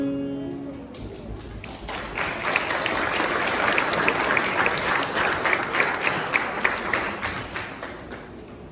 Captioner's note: applause